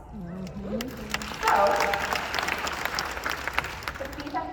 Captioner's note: applause